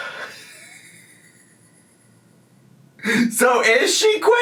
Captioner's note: laughs